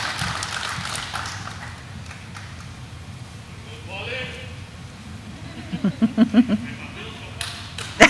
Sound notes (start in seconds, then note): 5.2 everyone laughing